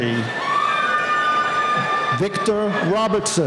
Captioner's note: cheering